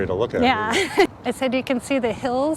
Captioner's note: chuckles